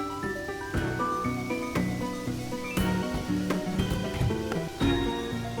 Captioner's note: wintery wind bustles